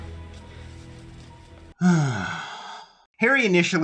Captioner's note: sigh